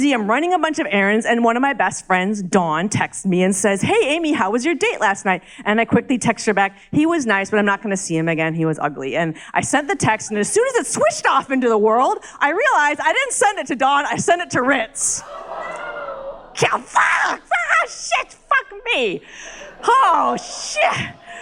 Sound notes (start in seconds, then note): 15.1 crowd gasps